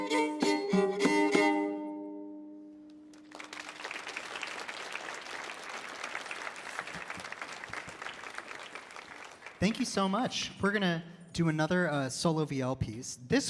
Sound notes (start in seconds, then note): 0.0 lively music continues; 3.0 audience applauding